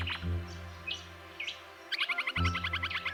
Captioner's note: bird calls and music